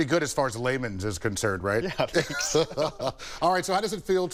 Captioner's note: laughs